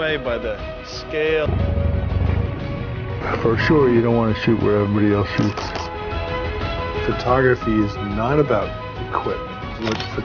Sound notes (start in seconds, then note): 2.0 upbeat music; 5.9 camera flashes